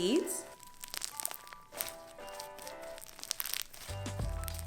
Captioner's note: floam crackles